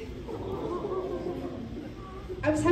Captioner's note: awwwww